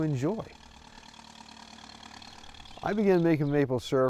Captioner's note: tractor engine